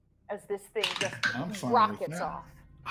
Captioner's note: dice clacking